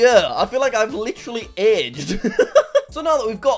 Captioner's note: laughs